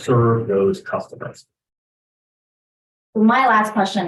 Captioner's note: speaks faintly